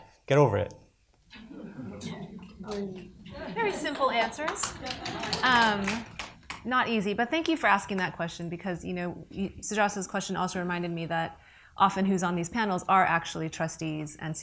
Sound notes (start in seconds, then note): 1.3 audience laughs; 5.1 audience applauds